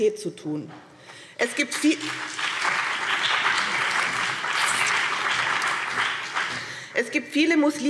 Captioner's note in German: Beifall